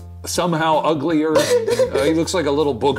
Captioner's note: laughing